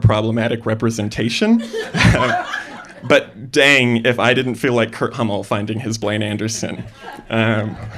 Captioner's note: laughter